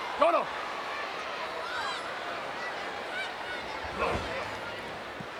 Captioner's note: Mr. Fuji speaks in foreign language